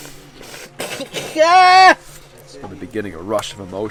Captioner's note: tribesman screams